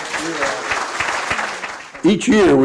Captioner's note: applause